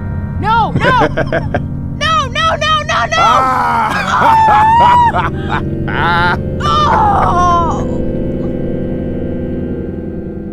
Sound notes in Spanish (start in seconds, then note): 0.7 Coach se ríe; 3.1 Rochelle grita